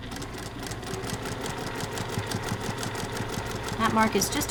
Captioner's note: sewing machine churning